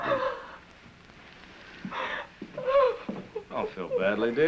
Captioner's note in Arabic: بكاء